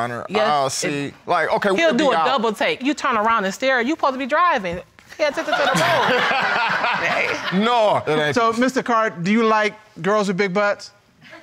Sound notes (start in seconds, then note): 5.4 audience laughing; 5.4 laughs